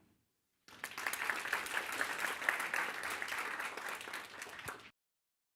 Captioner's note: applause